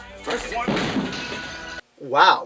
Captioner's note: glass is heard breaking